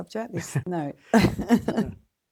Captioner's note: laughs